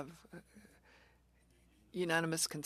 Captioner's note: speaking French